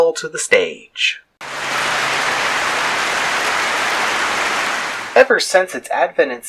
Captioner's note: clapping